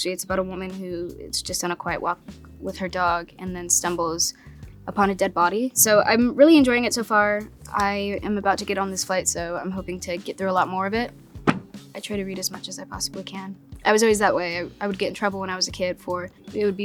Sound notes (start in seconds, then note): 11.4 book thumping